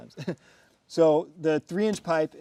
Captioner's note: man chuckling